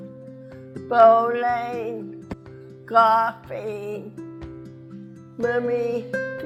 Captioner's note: ball taps on floor